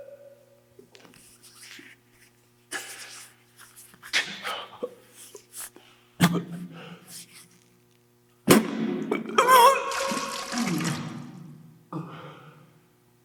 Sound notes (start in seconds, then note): 6.5 Jacob coughs; 8.7 Jacob coughing; 9.1 Jacob retching